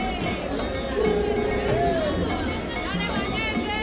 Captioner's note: children voices